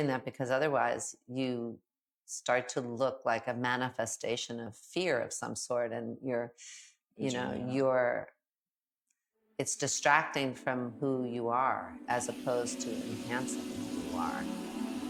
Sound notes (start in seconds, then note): 10.5 enchanted music; 12.1 faucet running